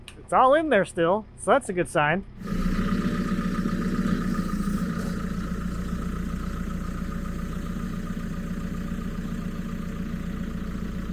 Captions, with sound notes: It's all in there still, so that's a good sign. (forklift idling)